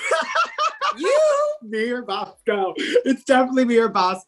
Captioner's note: laughs